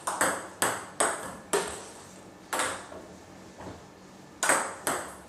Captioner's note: ball ping pong hitting continues